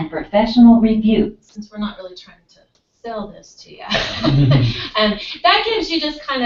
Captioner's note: laugh